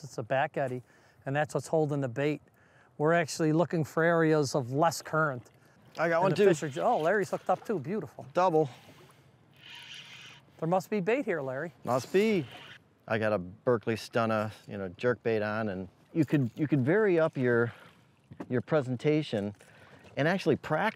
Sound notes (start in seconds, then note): 9.6 line zips